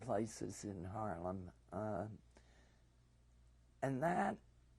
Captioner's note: pauses for 3 seconds